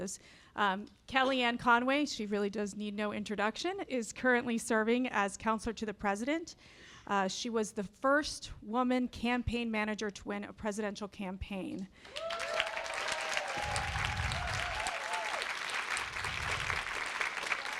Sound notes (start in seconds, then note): 12.0 applause